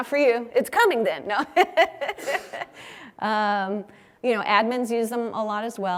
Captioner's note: laugh